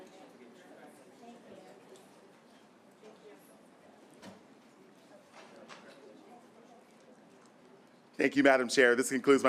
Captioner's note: silence